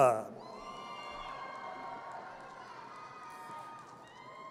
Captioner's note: audience cheers